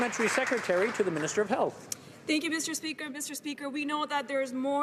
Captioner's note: some Applause